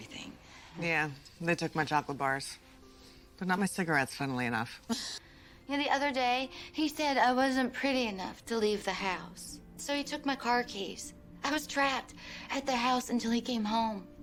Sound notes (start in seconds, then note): 4.3 laughs